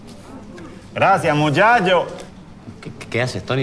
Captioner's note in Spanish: con acento canario